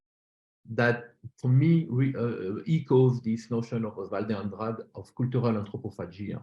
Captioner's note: non-english